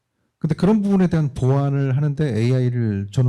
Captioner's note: speaking korean